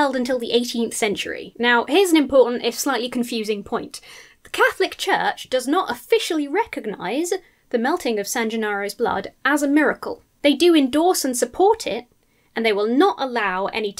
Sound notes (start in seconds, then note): none